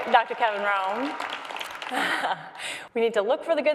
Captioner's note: crowd applauds